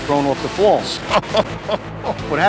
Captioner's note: laughs